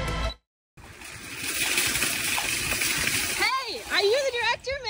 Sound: wheels rattling

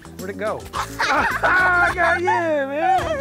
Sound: laughs

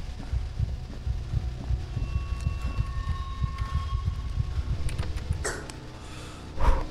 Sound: heartbeat pounding

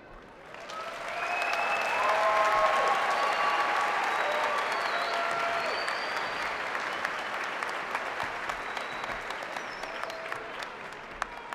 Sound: cheering; applause

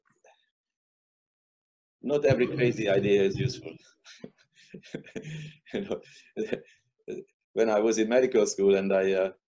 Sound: laughter

